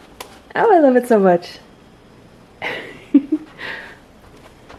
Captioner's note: giggles